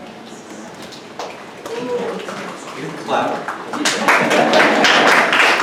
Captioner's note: audience applauds